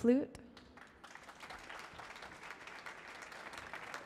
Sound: applause

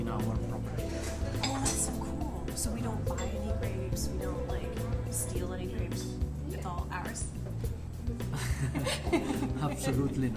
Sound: laughing

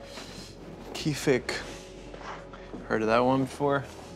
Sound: speaking Arabic

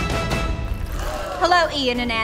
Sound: every one gasps

